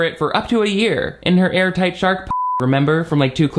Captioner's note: beep